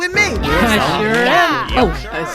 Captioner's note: all chattering